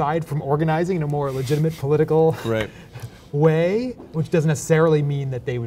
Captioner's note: chuckles